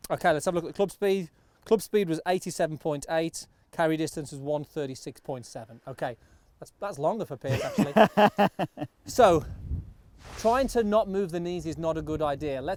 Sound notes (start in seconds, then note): 7.5 laughing